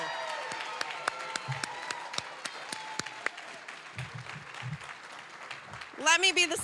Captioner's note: applause, cheering